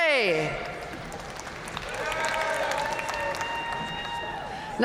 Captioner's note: audience cheering and applauding